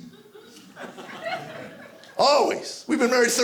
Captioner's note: audience laughing